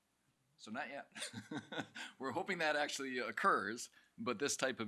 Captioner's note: chuckles